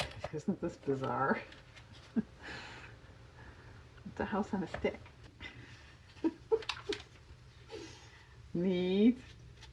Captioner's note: laughs